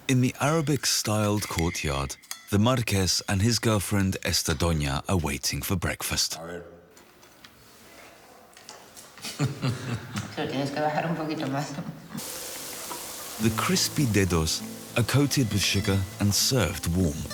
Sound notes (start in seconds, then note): 9.2 giggling softly; 10.6 speaking foreign language